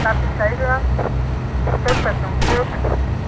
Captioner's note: gunfire